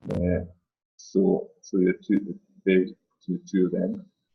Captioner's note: distorted speaking